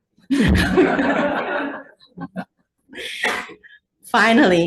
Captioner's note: all laughing